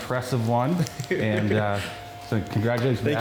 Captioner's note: giggling